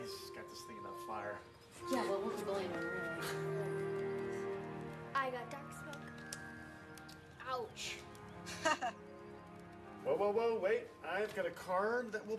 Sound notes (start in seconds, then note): 6.9 laughs